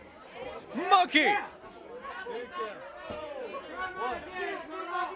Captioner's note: crowd chatter